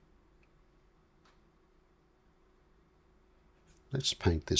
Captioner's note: silence